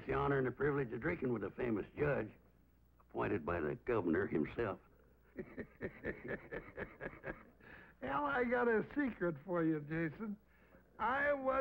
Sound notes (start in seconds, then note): 5.3 laughs